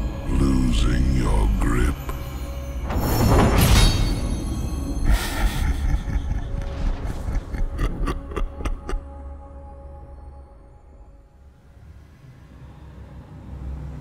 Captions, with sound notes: What’s the matter, Targon? Losing your grip? [Menacing Laugh]